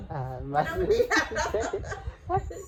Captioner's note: laugh